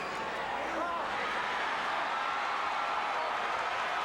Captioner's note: crowd chattering